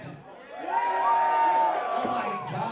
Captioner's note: crowd cheers